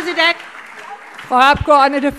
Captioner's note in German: Beifall SPD und Freie Demokraten